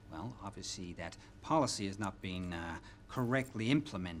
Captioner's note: none